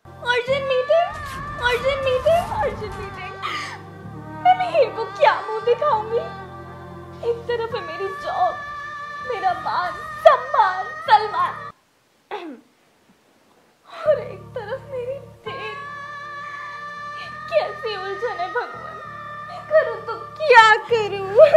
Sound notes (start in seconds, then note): 1.5 dramatic echoes